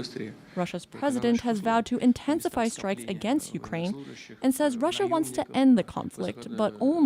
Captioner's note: speaking alternate language